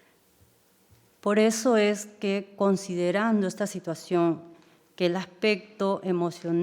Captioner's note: speaking in foreign language